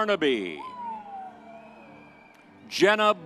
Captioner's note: soft music continues; audience cheers